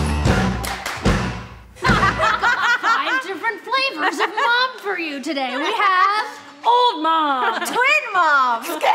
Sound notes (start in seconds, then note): 1.8 all laughing